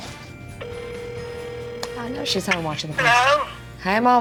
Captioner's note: phone ringing